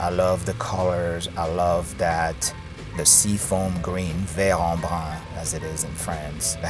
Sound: speaks in foreign language

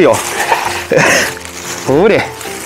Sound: laughs

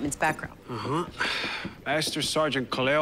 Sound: exhales

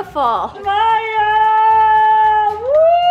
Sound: yells

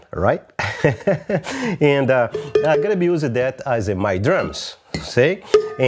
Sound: laughs

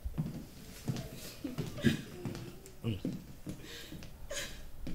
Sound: footsteps approaching

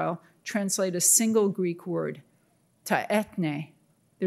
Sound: speaking in Greek

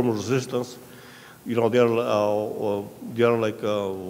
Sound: speaking in a foreign language

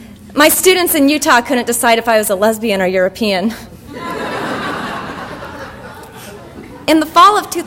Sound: audience laughter

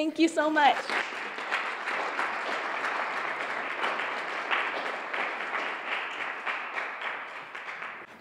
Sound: applause

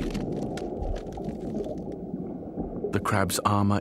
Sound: crunching continues

